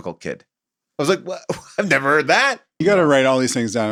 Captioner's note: laughs